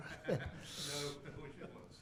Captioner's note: laughter